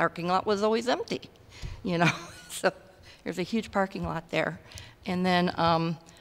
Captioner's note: laughter